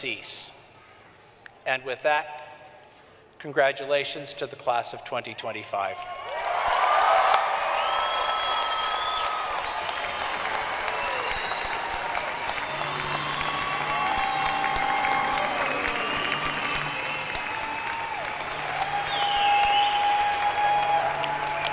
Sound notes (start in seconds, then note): 10.3 cheering and applause